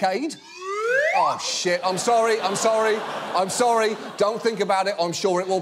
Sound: slide whistle ascending

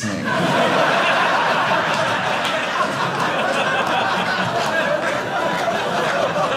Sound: audience laughing

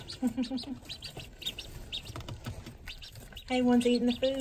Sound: ducks chirping

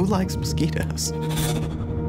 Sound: mosquito buzz

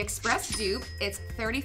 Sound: till rings

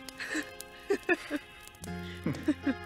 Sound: laughter

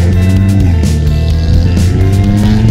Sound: car exhaust noise

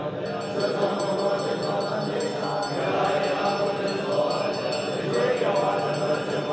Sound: bell ringing

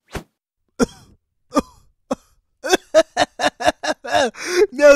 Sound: humorous Laughter of the Haha varieties

